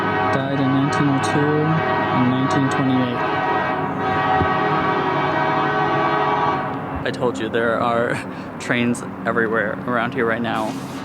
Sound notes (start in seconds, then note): 3.1 train horn blaring